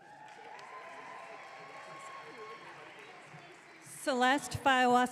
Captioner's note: audience clapping